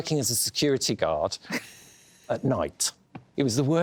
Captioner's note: laughs